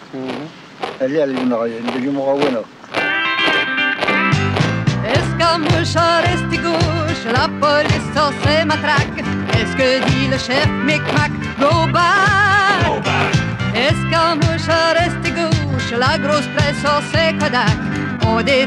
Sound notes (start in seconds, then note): 3.2 upbeat country music; 5.2 woman singing in foreign language; 12.8 men shouting in foreign language; 13.9 woman singing in foreign language